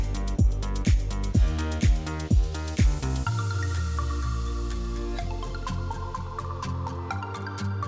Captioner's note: none